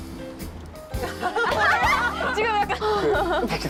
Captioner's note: both burst out laughing